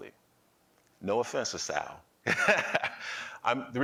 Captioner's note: laughing